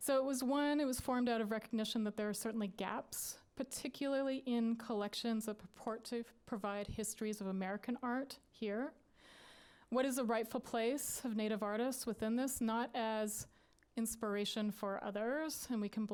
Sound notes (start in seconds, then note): none